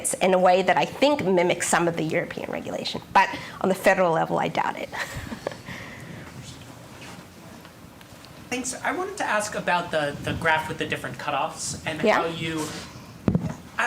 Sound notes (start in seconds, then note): 6.8 chuckling